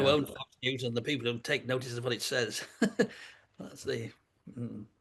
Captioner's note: laughs